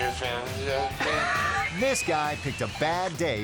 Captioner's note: laughing